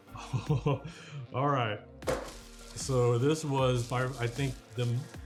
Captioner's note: chuckles